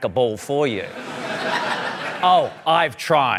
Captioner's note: laughter